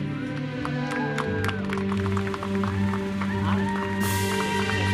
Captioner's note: attendees cheering; uplifting music continues